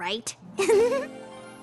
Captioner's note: giggle